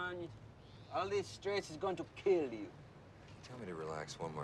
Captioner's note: speaks in Jamaican accent